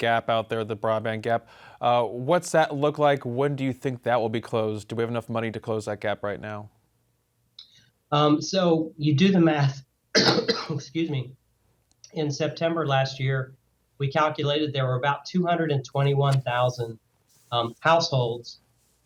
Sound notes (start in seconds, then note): 10.1 coughs